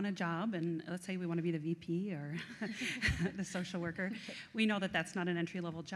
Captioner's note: laughs